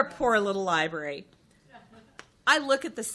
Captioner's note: chuckles